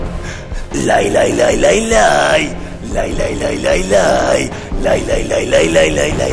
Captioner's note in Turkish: Şarkı mırıldanır